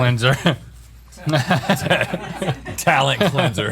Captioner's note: laughing